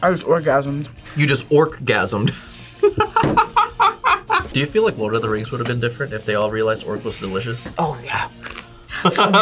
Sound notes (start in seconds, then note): 2.8 laughs; 8.9 laughs